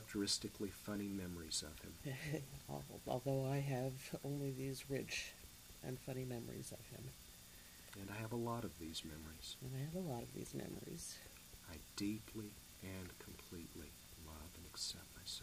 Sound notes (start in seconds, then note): 3.1 laughs a little